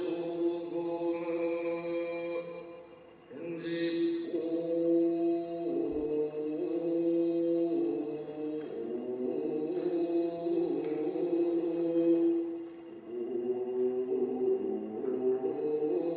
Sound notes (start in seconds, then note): 4.2 chanting continues